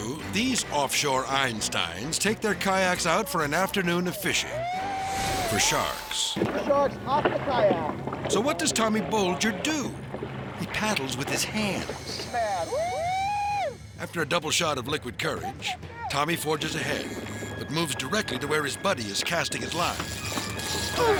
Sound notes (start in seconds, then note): 4.7 fishermen cheering; 4.7 water splashing; 12.1 fishermen cheering